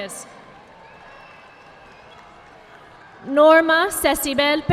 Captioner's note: audience applauding